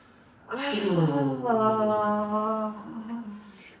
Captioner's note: moaning